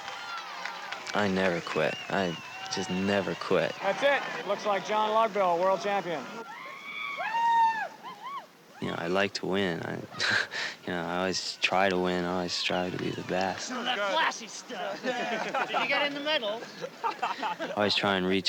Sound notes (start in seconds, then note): 12.4 laugh; 15.6 laughing; 17.9 laughter